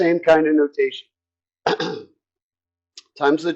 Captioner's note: cough